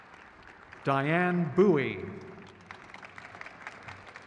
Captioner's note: crowd cheers